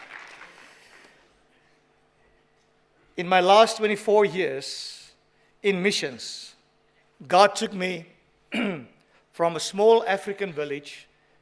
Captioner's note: applause